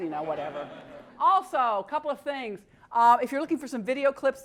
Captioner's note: laugh